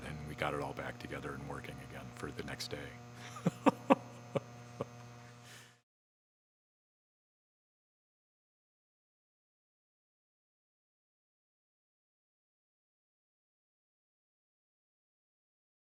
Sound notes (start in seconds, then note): 3.3 laughs